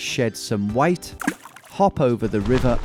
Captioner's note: splosh